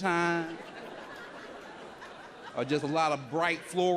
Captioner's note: audience laughs